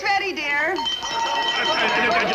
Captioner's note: bell ringing